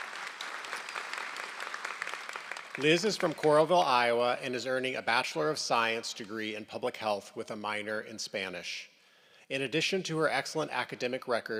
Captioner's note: applause